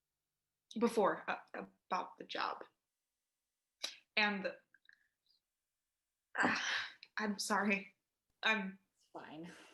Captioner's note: sigh